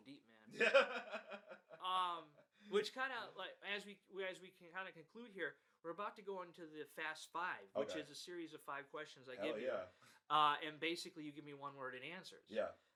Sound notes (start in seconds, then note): 0.5 laughs